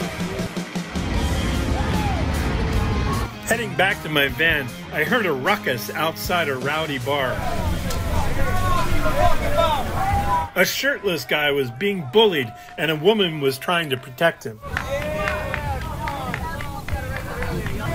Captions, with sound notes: [rock music] Heading back to my van, I heard a ruckus outside a rowdy bar. [heckling] A shirtless guy was being bullied and a woman was trying to protect him.